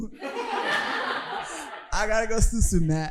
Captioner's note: audience laughing